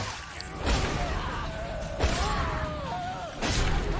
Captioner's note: both screaming